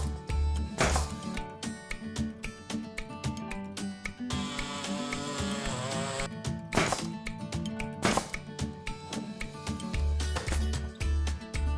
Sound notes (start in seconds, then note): 0.8 nail gun popping; 4.3 saw buzzing; 6.7 nail gun popping